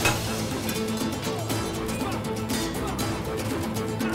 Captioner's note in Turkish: Kılıç sesleri